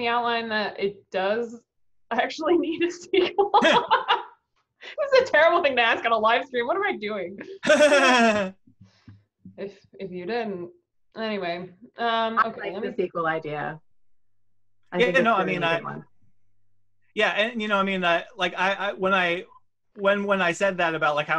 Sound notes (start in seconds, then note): 3.2 laughing; 7.5 laughs